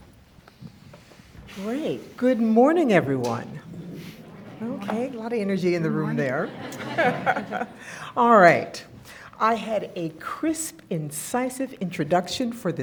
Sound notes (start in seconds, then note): 6.9 all laughing